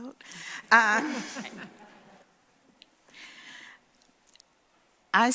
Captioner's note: laughter